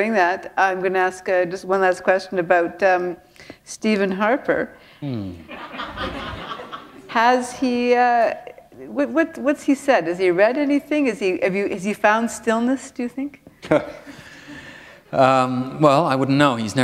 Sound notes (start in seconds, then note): 5.4 laughter; 13.6 chuckle